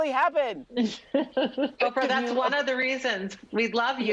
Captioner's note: laughs